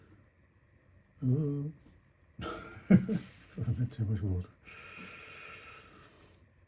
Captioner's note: nervous laugh